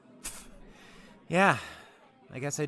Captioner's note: scoffs